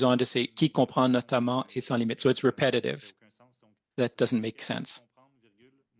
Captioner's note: speaking French